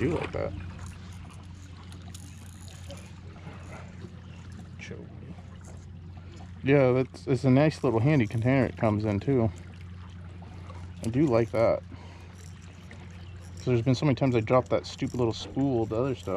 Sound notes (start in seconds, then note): 3.2 tackle rattling